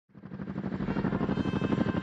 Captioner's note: helicopter sound